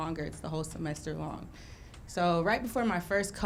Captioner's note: none